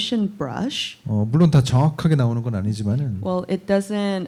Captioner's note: speaking korean